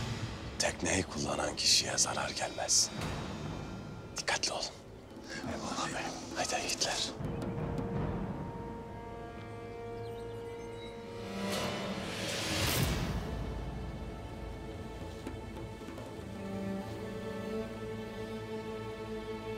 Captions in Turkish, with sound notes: Tekneyi kullanan kişiye zarar gelmesin. Dikkatli olun. (Hep bir ağızdan) Eyvallah beyim. Hayde yiğitler. (Müzik - Gerilim) (Kuş cıvıltısı sesleri)